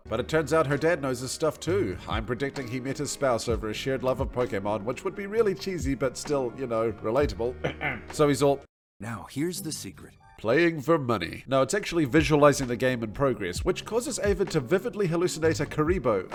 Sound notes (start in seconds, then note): 7.6 cough